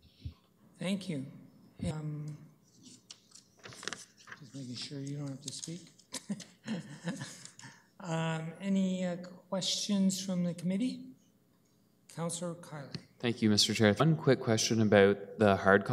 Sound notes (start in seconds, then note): 6.1 chuckles